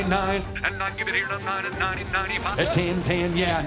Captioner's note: rapid auctioneering